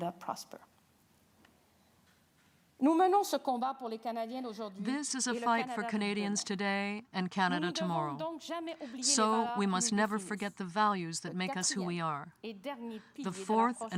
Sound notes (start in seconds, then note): 8.0 speaking french